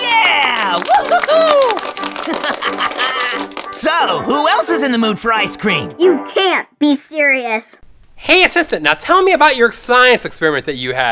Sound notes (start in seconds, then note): 2.2 laughs